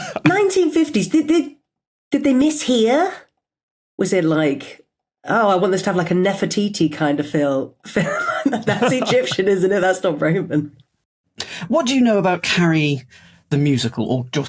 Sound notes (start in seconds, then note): 0.0 laughs; 8.1 both laugh